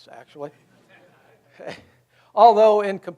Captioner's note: audience laughs